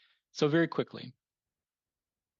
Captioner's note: speaking French